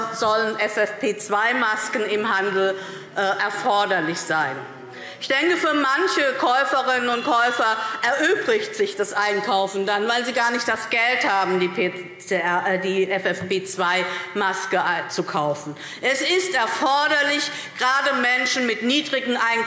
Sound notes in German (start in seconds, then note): 5.0 Unruhe – Glockenzeichen